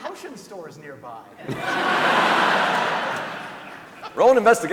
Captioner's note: laughter